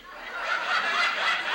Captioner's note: audience laughs